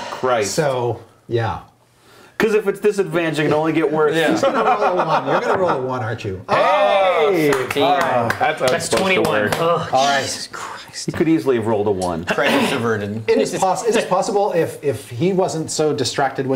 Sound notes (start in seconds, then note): 4.5 laughing; 6.5 cheering